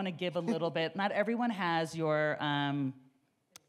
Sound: chuckles

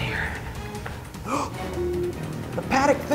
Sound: gasps; computer beeps

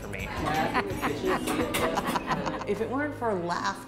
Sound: laughs

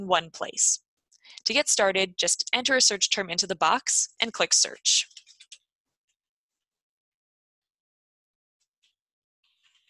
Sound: typing

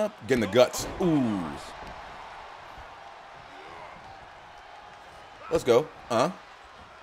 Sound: applause; applause

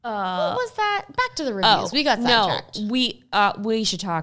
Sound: murmurs

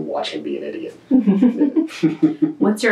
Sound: laughter

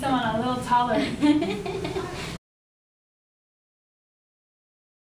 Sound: laughs

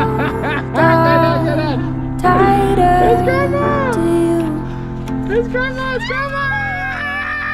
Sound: and kids screaming and laughing

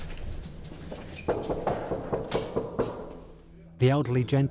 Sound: knocking

